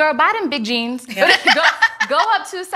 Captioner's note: ladies laughing